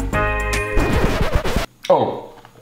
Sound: record scratching

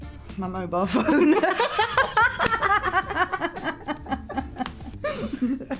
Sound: Olivia and Emma laugh

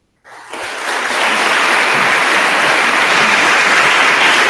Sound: attendees applauding

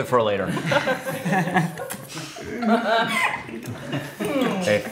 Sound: all laughing

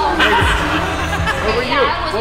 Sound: emma laughing; jacob laughing

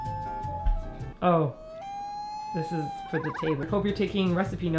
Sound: mumbles

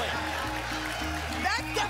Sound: applause and cheering

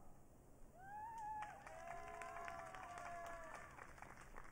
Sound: audience cheering

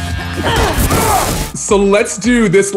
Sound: shouts

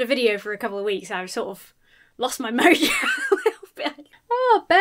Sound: laughs

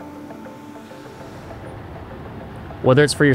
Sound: gentle music; engine purring

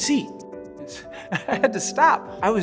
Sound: laughing

